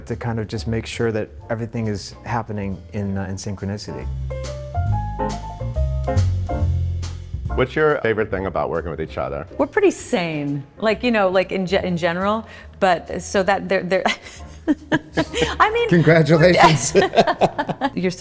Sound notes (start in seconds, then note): 4.4 gentle piano music; 14.6 laughs; 15.9 both laughing